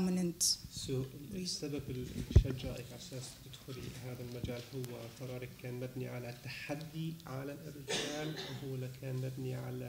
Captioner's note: speaking arabic